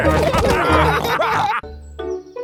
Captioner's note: all laughing